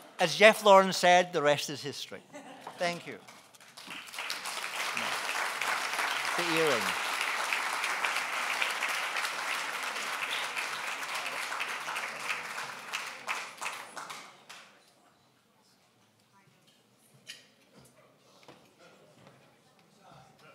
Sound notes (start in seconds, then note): 3.7 applause